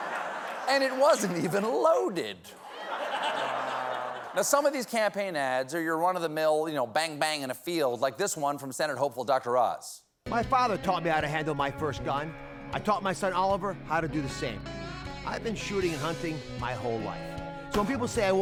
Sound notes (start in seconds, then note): 2.5 laughter